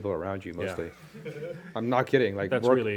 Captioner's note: laughter